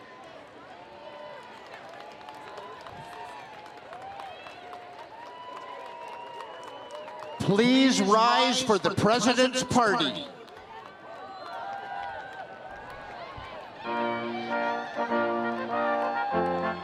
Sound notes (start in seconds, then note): 1.0 students cheering and screaming; 13.9 orchestral music